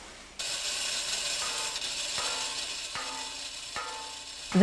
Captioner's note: banging and clinging